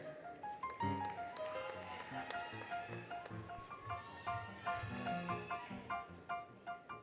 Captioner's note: applause, Cheering, Music